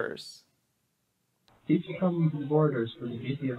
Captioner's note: distorted